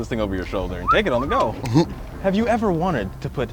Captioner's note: whistles